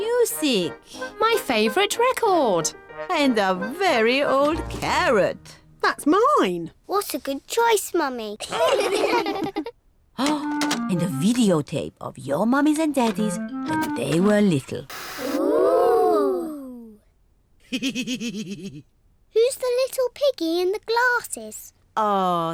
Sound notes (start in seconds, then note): 8.4 all laugh; 17.7 laughs